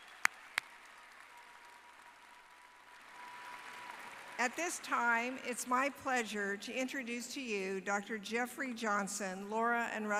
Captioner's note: applause